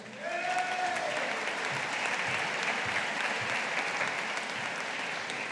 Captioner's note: audience applauding